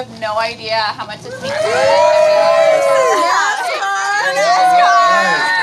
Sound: cheering

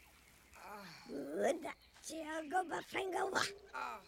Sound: Speaking Ewokese

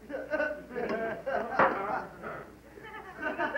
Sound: laughter

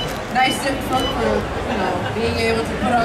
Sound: audience chattering drowns out female announcer

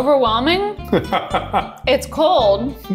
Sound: laughing

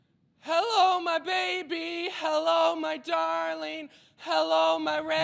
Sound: shouting

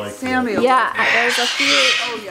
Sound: bird squawking loudly

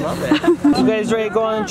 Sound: chuckles

